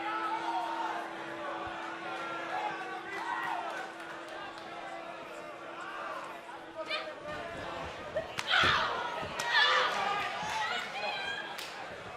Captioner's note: bell ringing